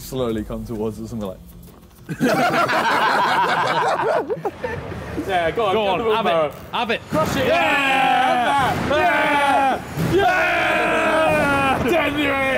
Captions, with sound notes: - They're slowly come towards us and we're like. (all laughing) - Go on. Have it. - Crush it. (all cheering) - Have that. (all cheering)